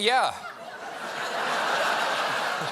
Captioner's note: laughter